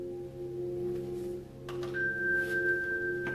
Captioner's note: elevator dings